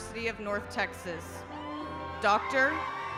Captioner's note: attendees cheering